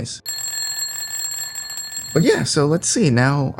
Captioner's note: alarm clock ringing